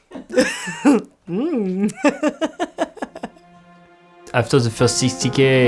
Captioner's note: crew and Courtney laughs